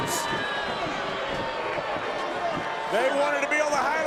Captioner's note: crowd boos